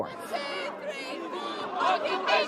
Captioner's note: chanting